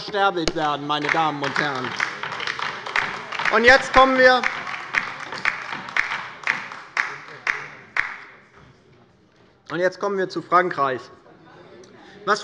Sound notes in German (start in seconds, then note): 2.3 Beifall bei der LINKEN